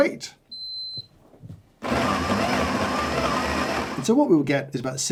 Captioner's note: machine beeps and grinds